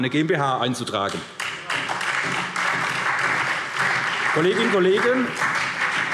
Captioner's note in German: Beifall SPD und DIE LINKE